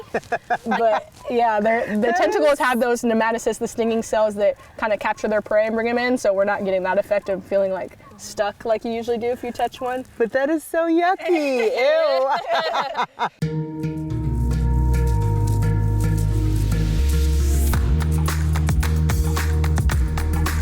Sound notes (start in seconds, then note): 0.0 laughing; 11.2 people laughing; 13.4 upbeat percussive music